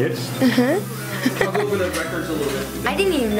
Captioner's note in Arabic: يضحك